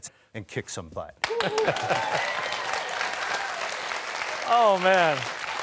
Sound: cheers and applause

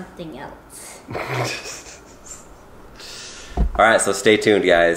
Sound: chuckles

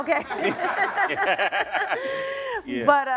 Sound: laughs

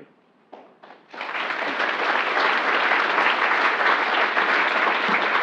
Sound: applause

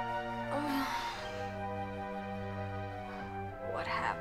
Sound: sighs

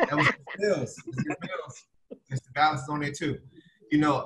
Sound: laughing

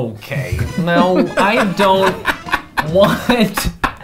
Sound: laughing

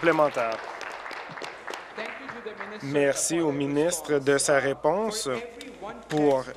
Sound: applause

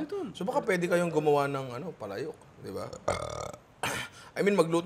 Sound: burps

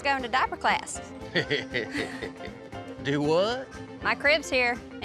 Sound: chuckling

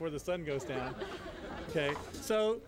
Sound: laughter

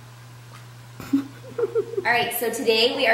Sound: quiet chuckling

